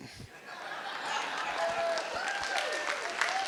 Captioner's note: laughing; applause